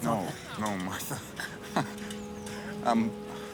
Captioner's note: chuckles